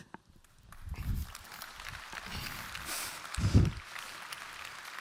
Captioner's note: applause